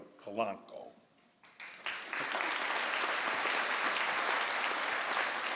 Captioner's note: crowd applauds